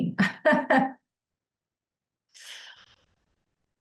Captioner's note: chuckles